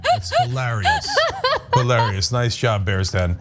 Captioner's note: laugh